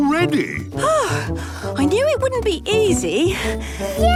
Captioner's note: panting